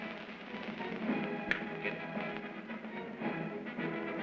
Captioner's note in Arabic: ينقر بأصابعه; موسيقى منتصرة